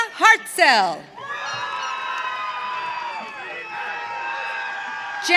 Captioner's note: audience cheering